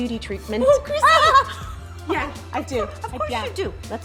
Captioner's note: laughs